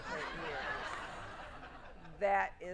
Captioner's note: audience laughing